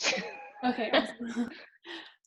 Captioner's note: laughs